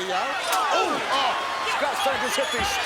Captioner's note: commentators exclaim